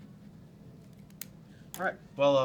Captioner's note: pen click